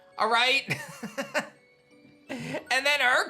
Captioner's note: laughs